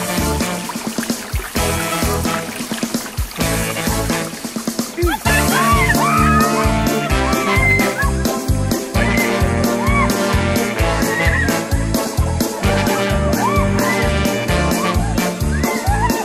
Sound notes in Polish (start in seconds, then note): 4.9 krzyki dziewcząt; 13.3 krzyki, śmiechy